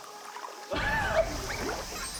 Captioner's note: laughing